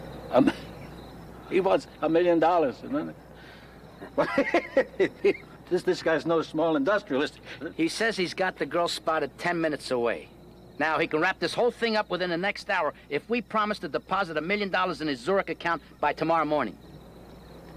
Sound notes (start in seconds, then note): 3.9 laughing